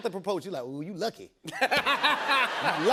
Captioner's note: laughter